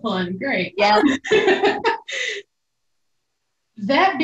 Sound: laughing loudly

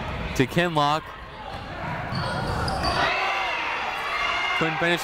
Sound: people shouting in the crowd

